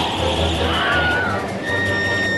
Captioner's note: whistling wind; screams